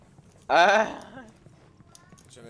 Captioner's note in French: Rire